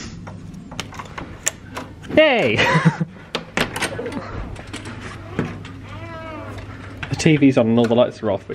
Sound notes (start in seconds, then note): 0.8 card and door click